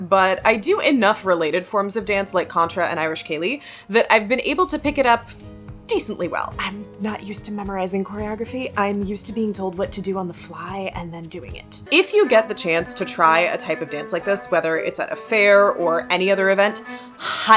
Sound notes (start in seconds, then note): 6.3 whispers